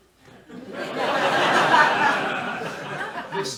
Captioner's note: laughter